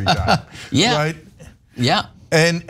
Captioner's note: laugh